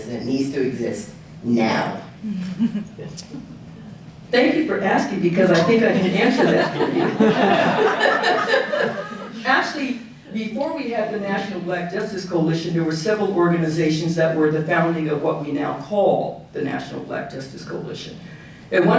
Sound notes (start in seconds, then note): 2.4 audience chuckling; 5.6 audience laughing